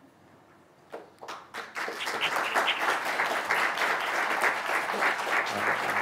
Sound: audience applauding

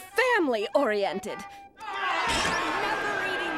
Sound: complaining

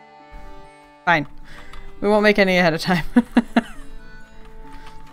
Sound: laughs

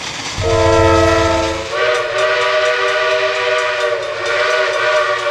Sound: train horn blaring

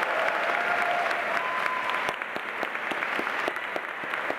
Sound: audience applauding

